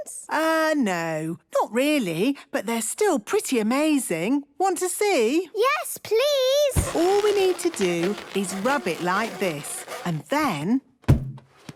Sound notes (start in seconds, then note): 6.7 balloon rubbing; 10.7 balloon echoes